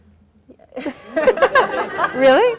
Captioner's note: audience laughing